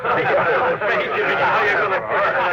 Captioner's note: laughter